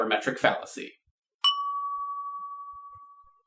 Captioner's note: ding!